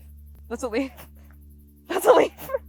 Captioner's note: laughs